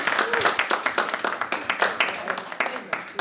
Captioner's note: applause